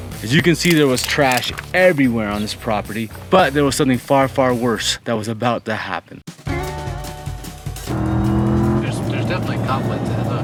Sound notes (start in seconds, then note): 0.0 gentle rock music; 6.3 upbeat music; 7.7 car engine roaring